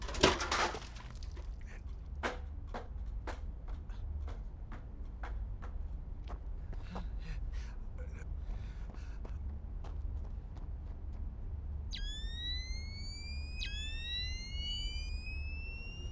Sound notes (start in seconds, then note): 0.0 bucket clatters; 11.9 high-pitched whirring